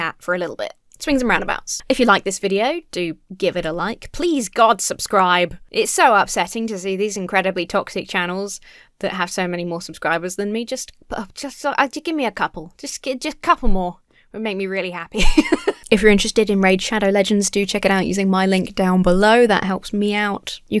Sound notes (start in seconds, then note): 11.1 stammers; 15.1 laughs